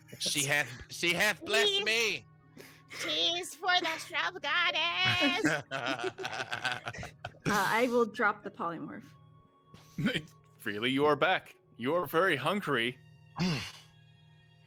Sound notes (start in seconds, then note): 5.0 group laughing